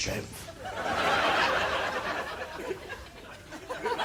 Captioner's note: audience laughing